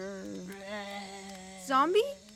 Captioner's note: groans